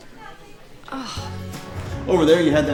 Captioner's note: woman grunts